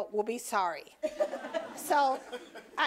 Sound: audience laughing

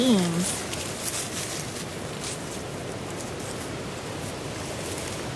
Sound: plants rustling

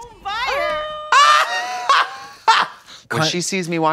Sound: Trixie hoots

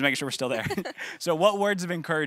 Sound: laughing

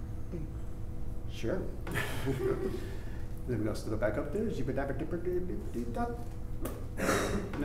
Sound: funny noises

